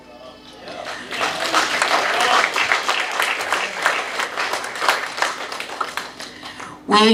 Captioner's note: clapping